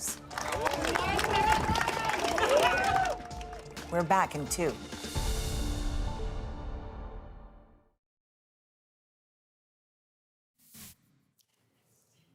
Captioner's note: applause